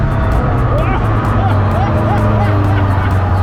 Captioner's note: laughing